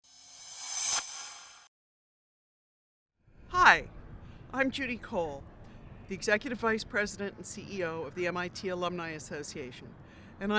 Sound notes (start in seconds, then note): 0.0 sound effect